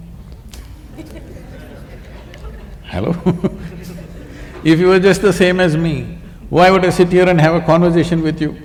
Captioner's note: laughter; laughs